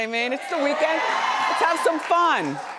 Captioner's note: audience cheers